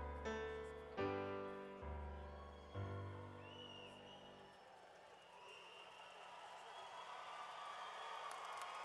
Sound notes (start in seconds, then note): 3.5 cheering